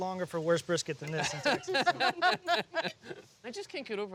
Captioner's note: laughter